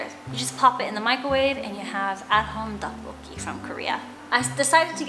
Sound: foreign language

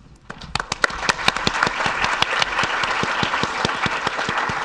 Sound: audience applauding

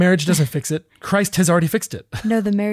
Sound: laughs

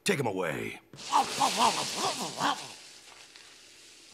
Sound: grunting

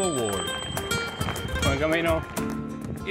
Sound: bell rings

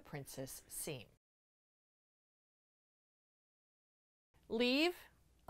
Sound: no Sound Present

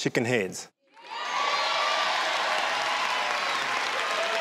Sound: crowd applauds

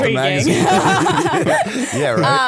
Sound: laughter

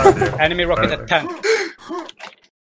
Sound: still laughing

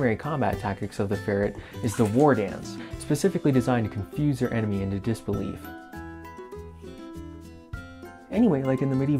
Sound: splashing

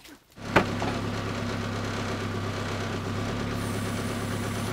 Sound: engine

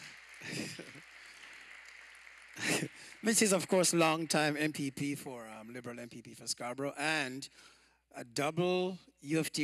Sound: applause

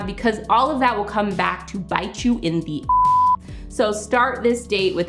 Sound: beep

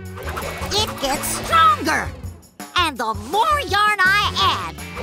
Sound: none

